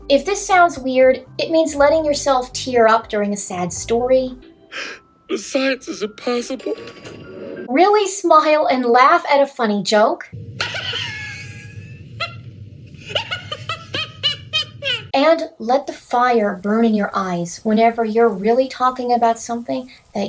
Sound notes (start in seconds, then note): 4.6 sniffles; 6.9 elevator chimes; 10.4 high-pitched laughter